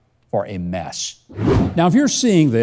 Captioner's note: air whooshing